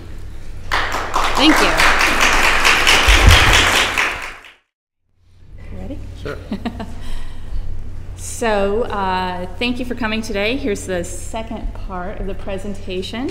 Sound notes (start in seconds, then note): 0.6 applause; 6.2 laughs